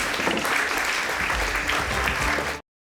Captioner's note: audience applauding